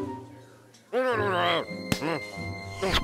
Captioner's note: grumbling